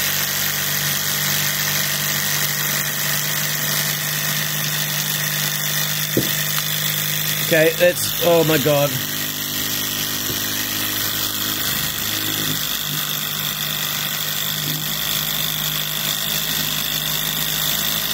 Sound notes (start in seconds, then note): 13.1 engine noises